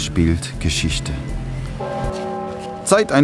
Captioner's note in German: Kirchenglocken